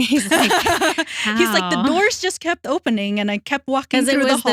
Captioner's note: both Laughing